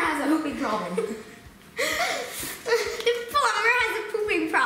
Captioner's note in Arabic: يضحك